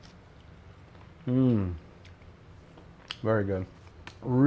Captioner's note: hums